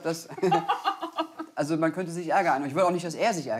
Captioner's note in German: Lachen